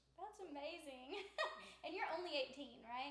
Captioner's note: laughs